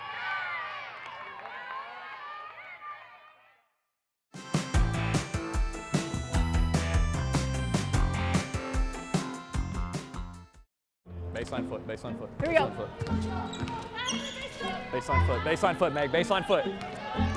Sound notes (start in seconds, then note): 0.0 crowd cheering; 10.8 upbeat music